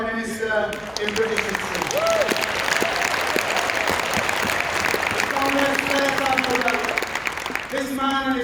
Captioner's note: applause